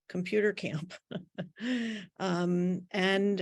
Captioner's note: laughing